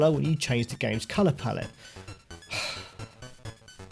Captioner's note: sigh